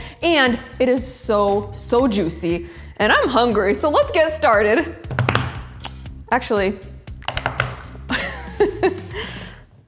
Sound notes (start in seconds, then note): 8.1 laughs